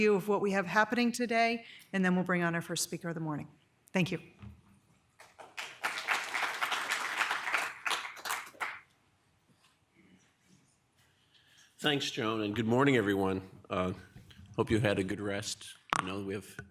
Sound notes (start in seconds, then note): 5.2 audience applauding